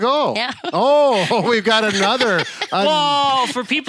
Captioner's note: chuckles